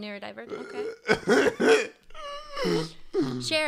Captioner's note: still laughing